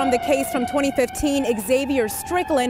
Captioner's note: siren